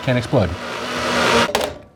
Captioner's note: blender whirring